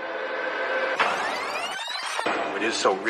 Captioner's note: tape rewinding